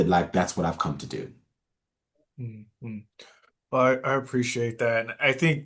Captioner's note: nods and hums in agreement